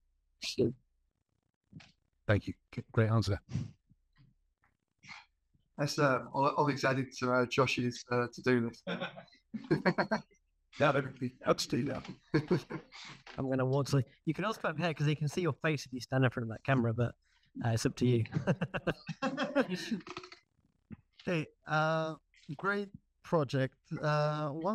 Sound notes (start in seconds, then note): 9.6 audience laughing; 18.1 all laughing